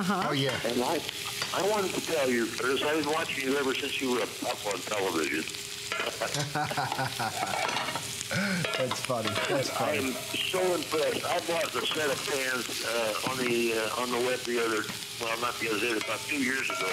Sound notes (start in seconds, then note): 6.2 laughter